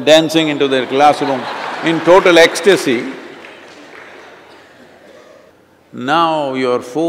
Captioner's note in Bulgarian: смях